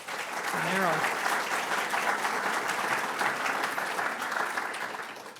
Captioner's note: audience applauding